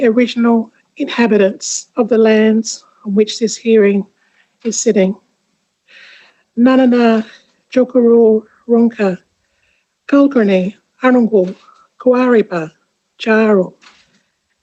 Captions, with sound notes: original inhabitants of the lands on which this hearing is sitting. (NGAANYATJARRA LANGUAGE SPOKEN).